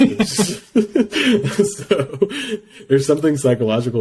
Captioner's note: laughs